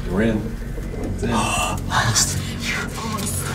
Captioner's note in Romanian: Rhoda oftează